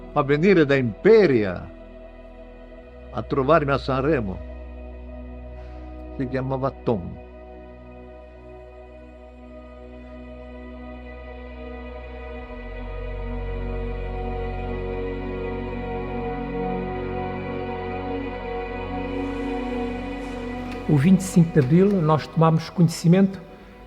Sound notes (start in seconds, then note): 6.1 Melancholic voice; 11.0 melancholic music